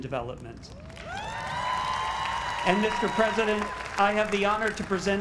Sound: applause

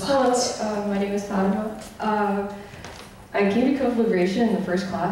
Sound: voiceover

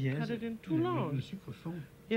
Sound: speaking French

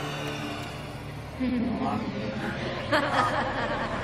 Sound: laughing

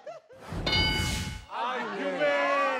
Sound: buzzer dings

